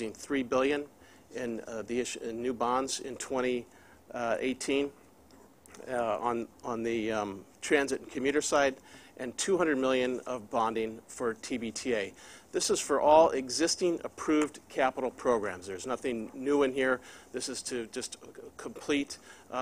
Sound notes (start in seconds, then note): none